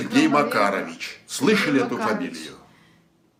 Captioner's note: foreign language